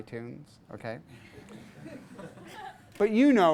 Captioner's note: class laughs